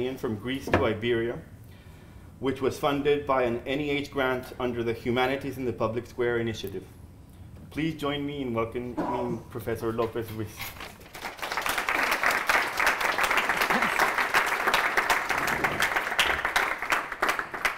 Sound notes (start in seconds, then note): 10.8 applause